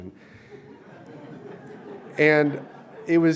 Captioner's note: crowd laughing